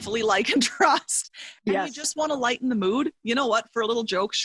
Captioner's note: laughs